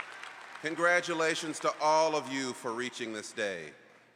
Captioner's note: applause